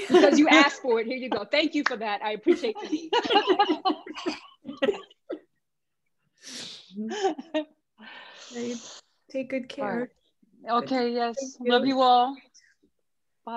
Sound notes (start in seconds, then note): 2.5 laughter